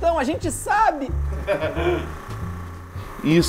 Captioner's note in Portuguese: risadas